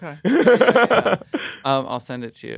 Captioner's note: laughs